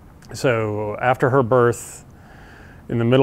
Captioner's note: none